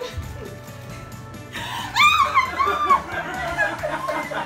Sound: screams; everyone laughing

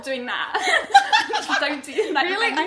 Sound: laughing

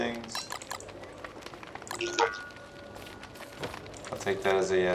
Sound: distortion

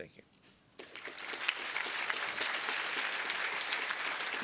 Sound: applause

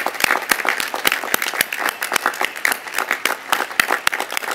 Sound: applause

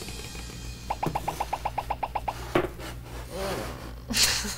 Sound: drum roll; bubbles popping; laughs

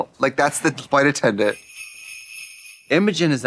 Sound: sleigh bells jingling

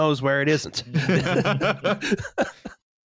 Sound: laughter

